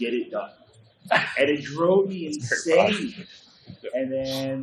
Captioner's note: laughs